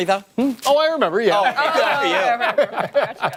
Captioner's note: laughter